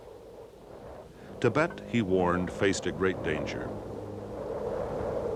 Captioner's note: wind blowing